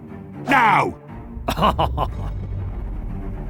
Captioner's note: laughs in French